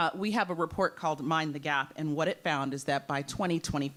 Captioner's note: none